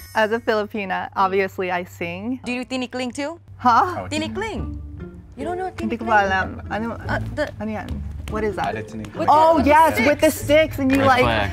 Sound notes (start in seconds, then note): 2.7 speaking foreign language; 3.7 whimsical music; 4.6 speaking foreign language; 6.4 speaks foreign language; 7.1 speaking foreign language